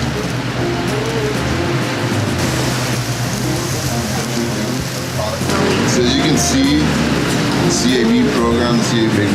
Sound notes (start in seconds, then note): 3.3 grill hisses